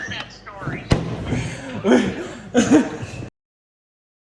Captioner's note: laughing